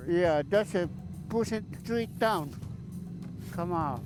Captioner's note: voiceover